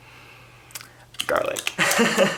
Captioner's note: laughing